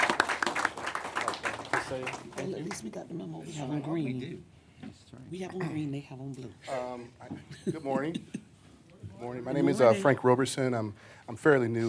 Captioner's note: applause